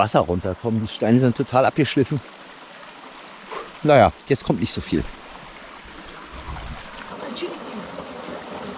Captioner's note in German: schnauben